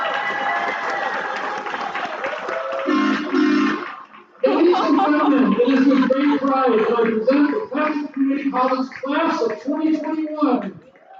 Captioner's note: cheering and applause